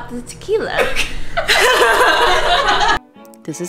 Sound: laughter

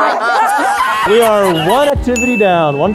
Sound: laughter; Risitas laughter

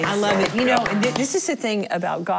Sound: clapping

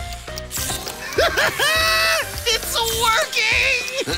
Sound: laughing

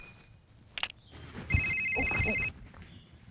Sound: phone Ringing

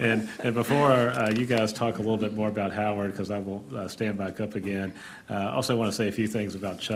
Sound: laughter

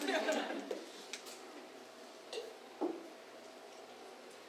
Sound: audience laughs

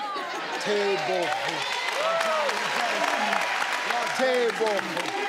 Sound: crowd cheers

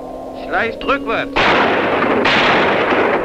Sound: German spoken audio

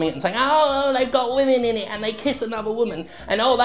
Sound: mocking

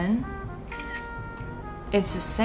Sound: camera clicks

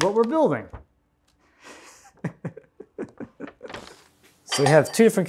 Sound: laughs

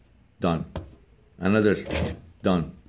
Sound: needle punching

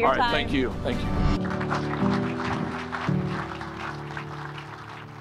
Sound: crowd applauding

